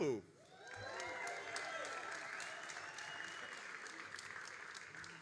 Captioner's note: all applauding and cheering